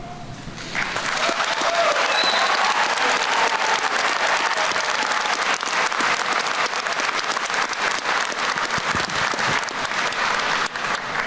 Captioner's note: applause